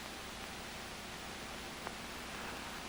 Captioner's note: none